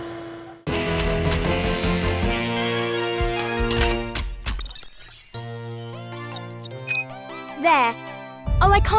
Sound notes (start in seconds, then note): 0.7 excited music; 4.7 machine beeping and whirring; 5.6 elated music